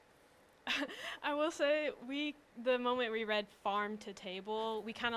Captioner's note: laughs